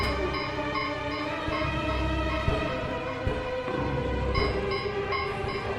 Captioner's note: zombies banging